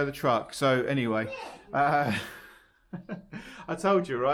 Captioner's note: laughs